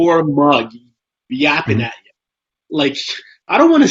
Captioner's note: laughs